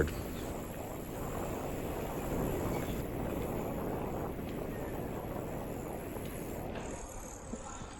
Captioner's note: wind blowing